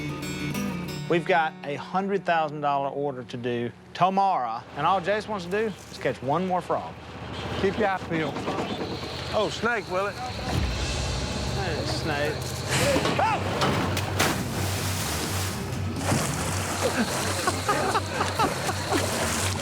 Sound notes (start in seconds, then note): 12.8 screaming; 14.9 splashing; 16.8 laughter